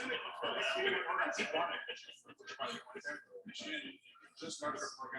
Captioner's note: people chattering indistinctly